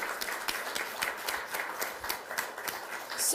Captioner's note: applause